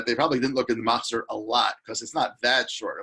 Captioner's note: speaks in foreign language